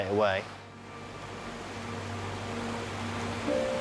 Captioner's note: waves crash; melancholy music